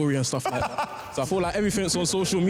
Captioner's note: laughs